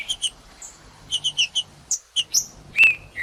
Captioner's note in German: trinca ferro cantando; trinca ferro cantando